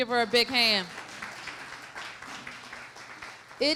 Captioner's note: applause